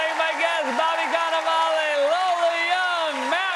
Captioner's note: cheers and applause